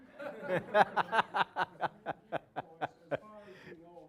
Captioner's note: audience laughing; laughing